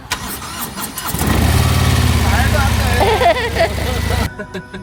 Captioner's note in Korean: 귀에 때려 박히는 웅장한 시동소리